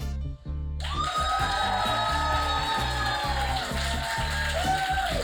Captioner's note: audience cheers and applauds